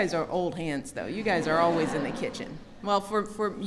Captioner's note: laughter